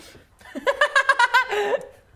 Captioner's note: laughing